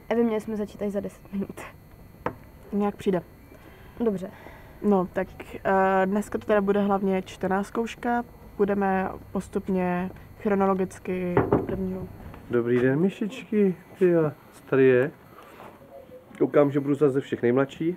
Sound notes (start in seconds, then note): 11.3 knocking on the door